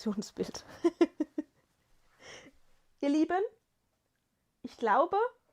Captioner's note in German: gelächter